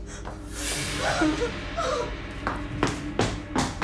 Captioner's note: dramatic music; Dorothy screams; feet pattering